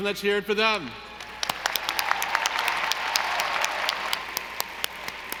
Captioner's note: audience applauding